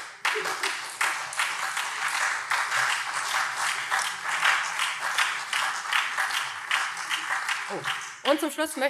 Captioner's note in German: Beifall SPD, CDU und BÜNDNIS 90/DIE GRÜNEN